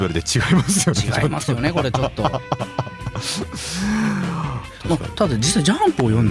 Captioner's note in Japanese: 笑い